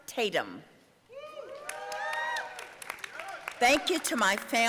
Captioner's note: audience cheering